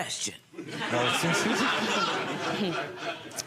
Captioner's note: crowd laughs